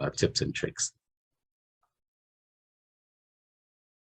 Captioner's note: silence